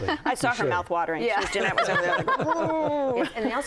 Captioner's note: laughs